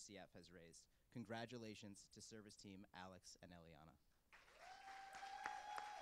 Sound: cheers and applause

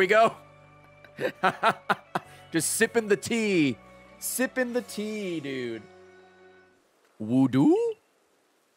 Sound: laughs

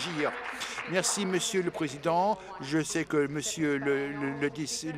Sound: applause

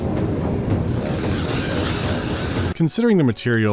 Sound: woosh; cawing

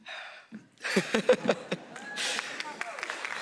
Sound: laughs

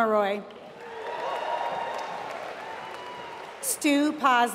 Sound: applause

